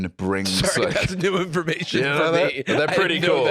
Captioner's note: laughing